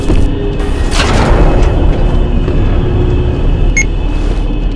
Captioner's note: elevator going up